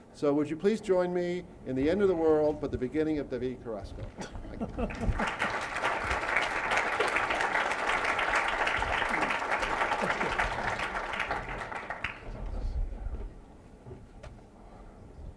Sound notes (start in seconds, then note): 4.1 laughter; 4.8 applause